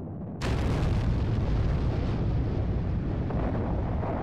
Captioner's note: cannon fire